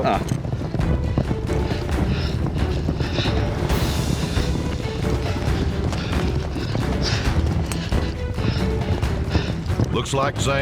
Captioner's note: hoof beats